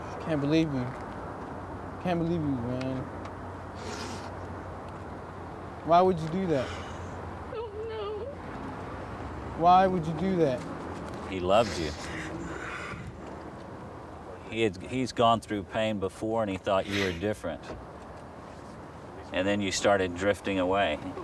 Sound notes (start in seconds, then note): 3.8 sniffles; 7.4 voice shaking; 11.6 sniffles